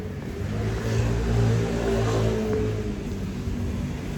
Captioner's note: vehicles pass